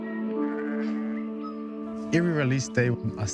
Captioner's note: serene music; sheep bleats, birdsong